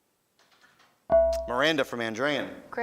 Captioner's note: beeping